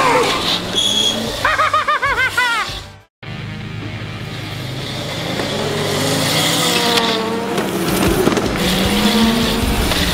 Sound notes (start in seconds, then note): 1.3 laughing; 3.6 scooters racing